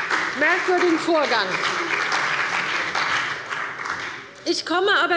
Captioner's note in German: Beifall bei der CDU und dem BÜNDNIS 90/DIE GRÜNEN